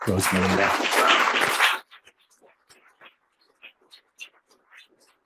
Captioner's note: audience applauds